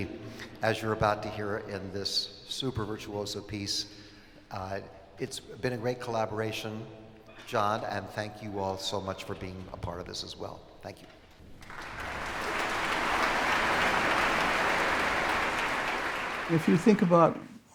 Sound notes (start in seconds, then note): 11.5 applause